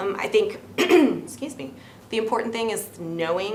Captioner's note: clears her throat